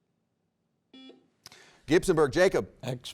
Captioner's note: buzzer rings